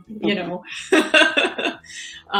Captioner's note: laughing